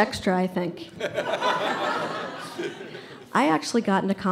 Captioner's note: audience laughs